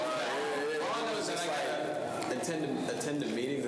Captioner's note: students chatter